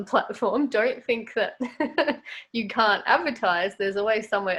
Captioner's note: chuckles